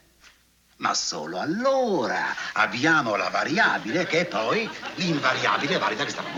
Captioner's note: rapidly speaking in Italian